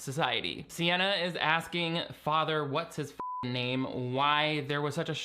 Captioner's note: beep